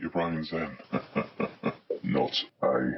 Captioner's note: gruff laughter